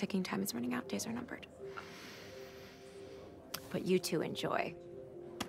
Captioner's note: inhales heavily